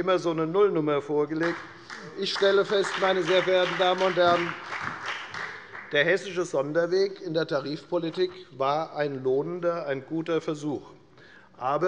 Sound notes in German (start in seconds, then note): 1.4 Beifall bei der FDP und bei Abgeordneten der SPD